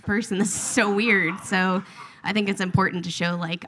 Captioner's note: audience laughs